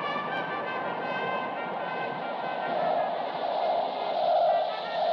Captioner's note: magnetic humming